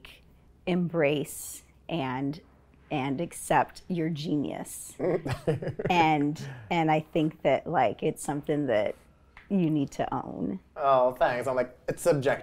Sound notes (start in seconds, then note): 5.0 chuckles